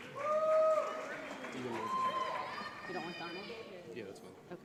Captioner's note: audience applauds